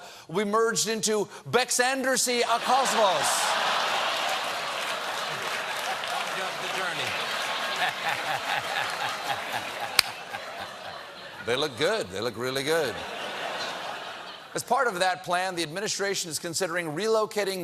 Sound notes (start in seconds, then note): 2.6 applause; 3.9 laughter